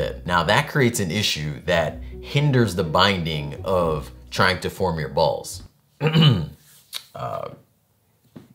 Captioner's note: clear throats